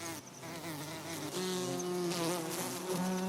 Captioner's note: buzzing